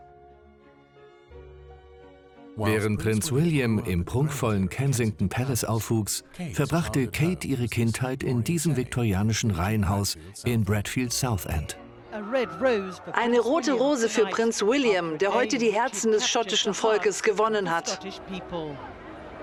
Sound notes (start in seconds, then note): 1.6 voiceover; 11.6 voiceover